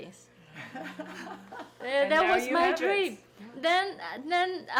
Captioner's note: people laughing